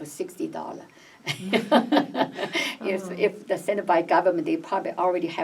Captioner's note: laughs